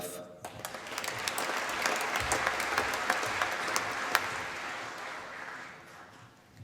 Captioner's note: applause